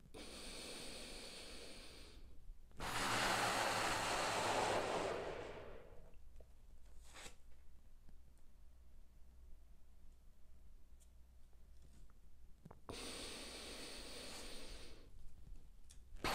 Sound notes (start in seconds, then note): 0.1 deeply inhales; 2.8 deeply exhales; 12.9 deeply inhales